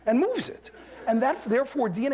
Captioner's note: laughter